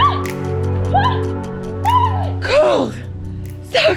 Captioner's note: gentle inspirational music; water whooshes; runner shrieks